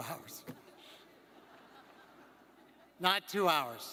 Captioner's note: crowd laughing